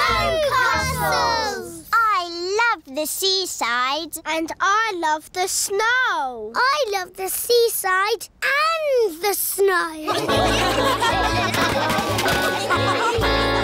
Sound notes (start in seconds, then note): 10.0 laughter